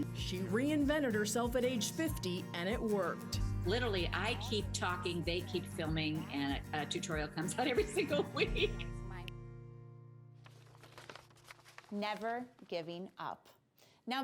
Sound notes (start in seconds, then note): 10.0 laughs; 10.4 paper crinkles